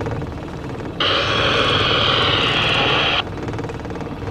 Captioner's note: loud static